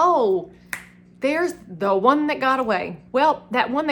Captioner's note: snaps